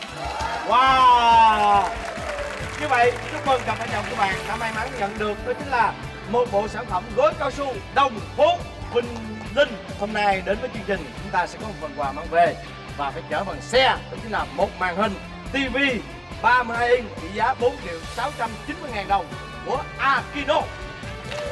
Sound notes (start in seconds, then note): 0.0 claps